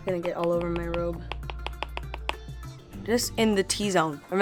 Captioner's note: tapping brush